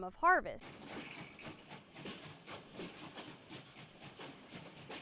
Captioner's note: train chugging